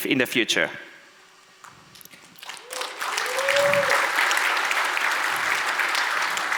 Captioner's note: audience applauds